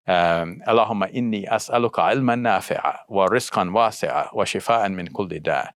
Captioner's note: speaking in foreign language